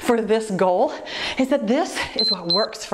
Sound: timer beeps

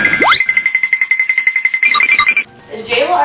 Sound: cartoon running sounds; cartoon ricochet

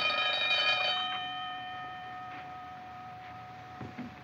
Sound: ringing Stops

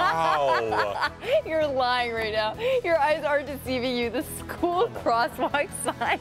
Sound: laughter

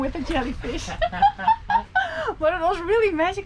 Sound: laughing

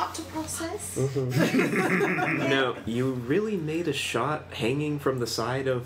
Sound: laughs

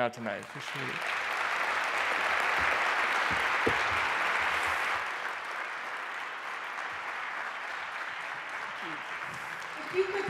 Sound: applause

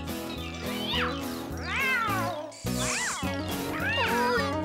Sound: meowing Continues

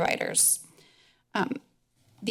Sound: pause

